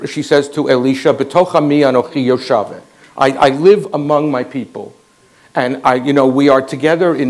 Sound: Hebrew 00:58:36

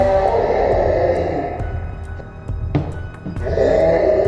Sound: Hulk screaming

